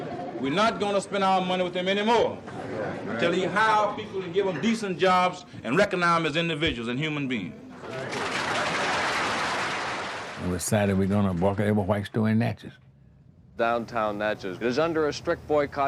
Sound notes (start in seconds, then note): 0.0 laughing; 7.8 applauding